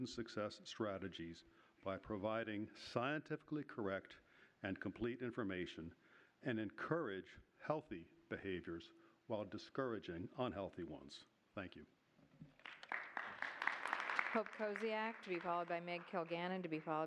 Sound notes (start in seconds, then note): 12.5 applause